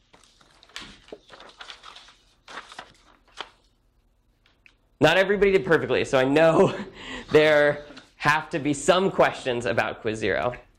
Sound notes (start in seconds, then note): 2.0 paper rustling; 6.7 laughs